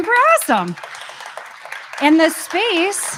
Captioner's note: crowd applauds